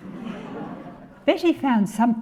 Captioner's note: audience laughing